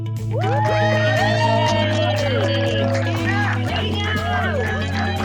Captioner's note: cheers and applause